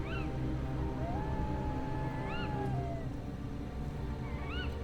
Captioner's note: wolves howling from a distance